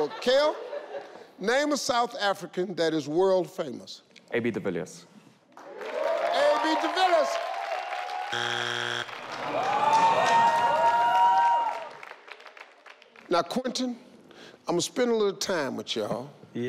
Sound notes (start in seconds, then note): 5.6 audience cheering; 8.3 screen buzzing; 9.4 audience cheering